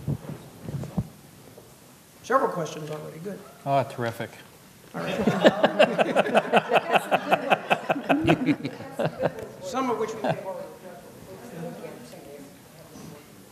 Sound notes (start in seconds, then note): 5.0 laughter